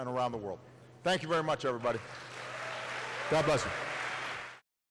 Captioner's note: applause